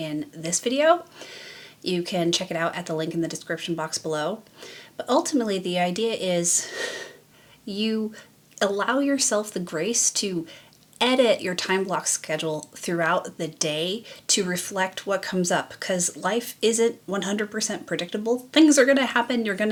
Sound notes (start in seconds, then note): none